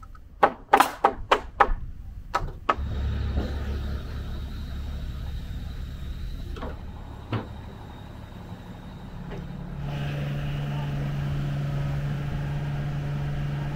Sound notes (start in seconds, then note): 0.4 both hammers tapping; 3.3 engine humming